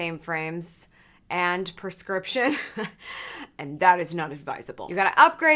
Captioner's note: laughs